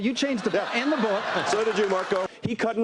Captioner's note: laughter